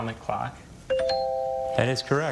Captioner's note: tone chimes